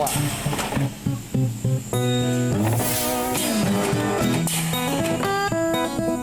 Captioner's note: machinery whirs and clicks; twangy guitar music